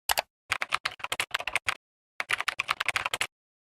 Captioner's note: keyboard clicking